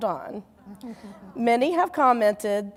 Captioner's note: audience laughing